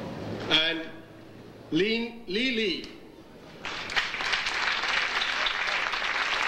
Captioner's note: audience applauding